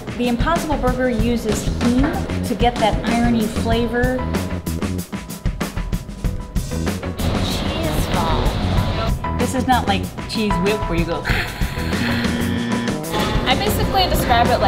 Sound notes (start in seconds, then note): 4.8 upbeat music; 11.5 spray sound; 12.1 buzzer beeps